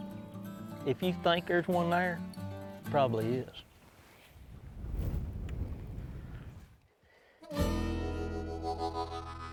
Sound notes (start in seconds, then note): 3.6 wind blowing; 7.4 country music